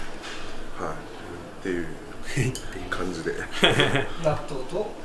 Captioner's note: laughs